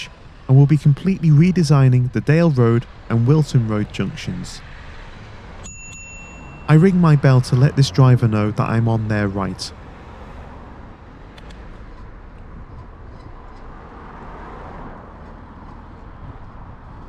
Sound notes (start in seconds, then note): 5.6 bell rings